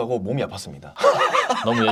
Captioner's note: laughing out loud